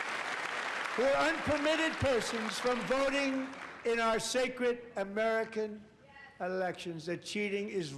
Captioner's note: applause